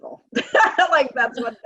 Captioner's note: laughing